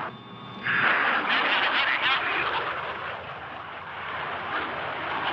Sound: muffed radio speaking

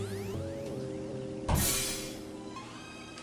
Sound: crash

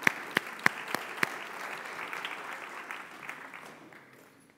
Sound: applause

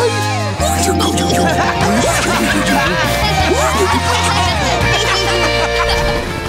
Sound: laughing

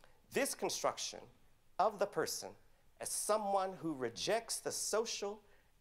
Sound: none

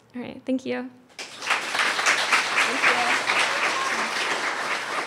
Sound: applause

